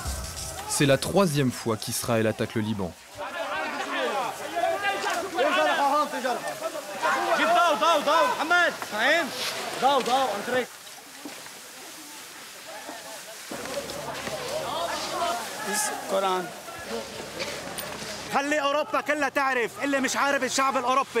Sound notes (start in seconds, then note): 4.1 arab spoken audio; 18.0 arab spoken audio